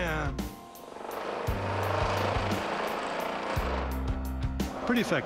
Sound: vibrating

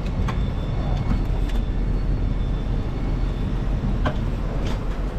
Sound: door chime sounds

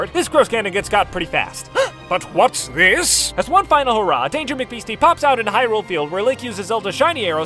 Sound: gasp

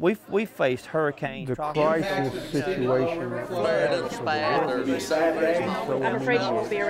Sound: fade into sound collage

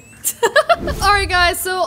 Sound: laughs

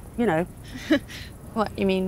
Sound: nervous laughter

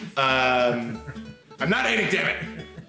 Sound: chuckling

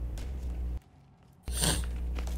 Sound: sniff

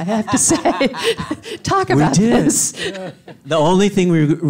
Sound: Edgar laughs

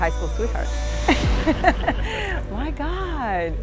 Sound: Dahlia laughs

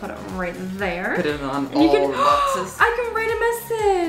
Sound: gasps

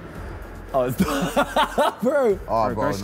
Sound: all laughing

